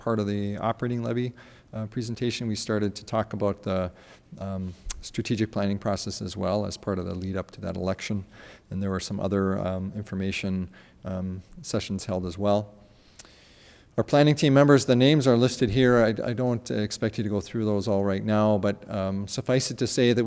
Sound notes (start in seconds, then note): none